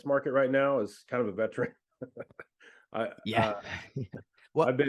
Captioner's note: chuckles